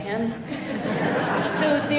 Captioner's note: laughter